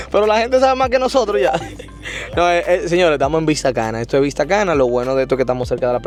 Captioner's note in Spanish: risas